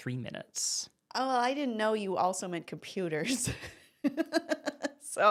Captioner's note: laughs